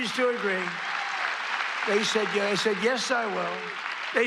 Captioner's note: applause